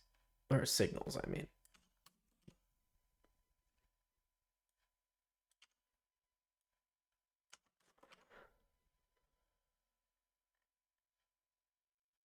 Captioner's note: silence